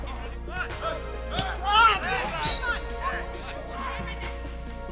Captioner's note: players shouting